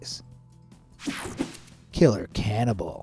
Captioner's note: screen buzzes and whooshes